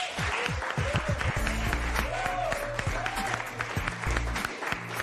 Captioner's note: cheers and applause